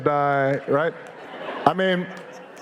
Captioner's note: audience laughing